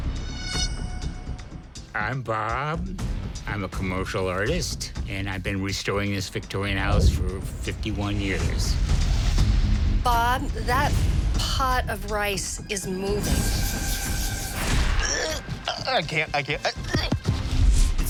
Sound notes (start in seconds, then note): 15.3 retches